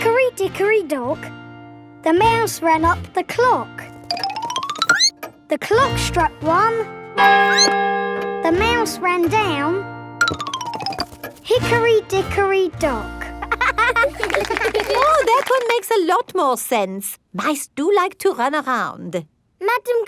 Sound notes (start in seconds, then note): 7.4 squeaks; 7.4 clock chimes; 13.4 laughing